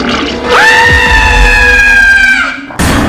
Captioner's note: screaming scary Skeleton